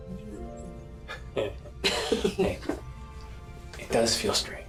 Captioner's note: both chuckling